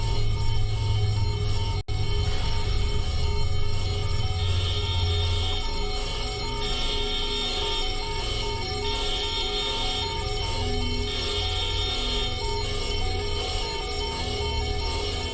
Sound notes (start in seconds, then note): 0.0 alarms & Bells; 4.0 alarms & Bells continue in background; 4.0 whirr alarm starts playing; 10.7 alarms & Bells